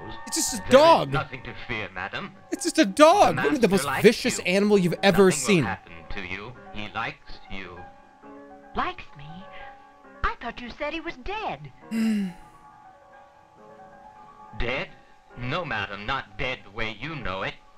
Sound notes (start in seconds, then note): 11.9 sighs